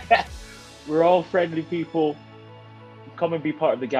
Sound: Ncuti laughing

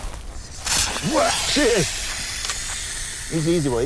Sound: snake hissing

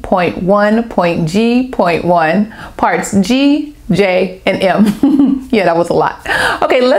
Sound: laughter

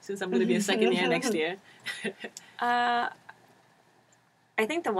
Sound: laugh

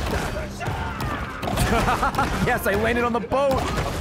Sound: laughs

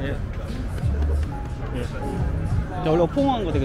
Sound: pat pat

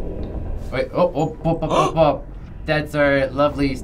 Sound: gasping

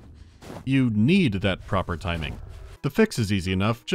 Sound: quiet sounds of wind and crunching of snow

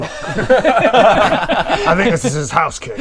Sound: laughs

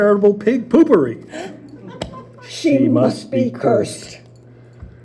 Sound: gasp

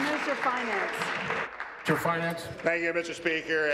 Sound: applause

